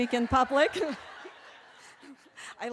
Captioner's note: laughter